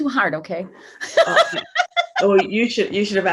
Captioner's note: laughing